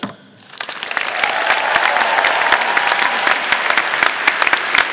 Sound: audience applauding

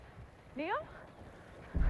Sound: rapid footsteps approach

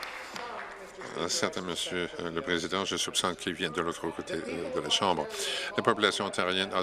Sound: applause

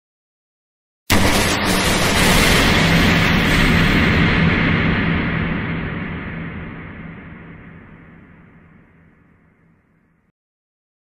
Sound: sound of slender scare

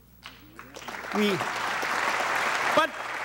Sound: audience applauding

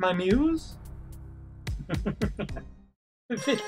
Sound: chuckles; victory fanfare

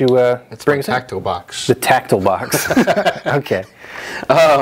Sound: laughs

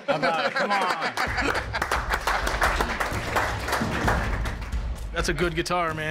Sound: applause

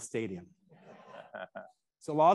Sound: attendees laughing

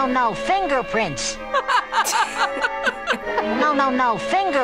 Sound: laughs; chuckles

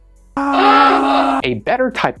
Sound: alarm

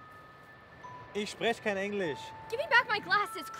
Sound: foreboding music; foreign language

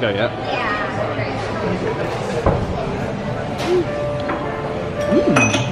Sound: diners chatting indistinctly

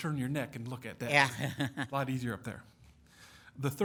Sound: chuckling

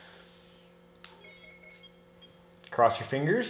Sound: electrical beeping

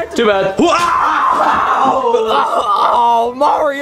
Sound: Bowser screaming

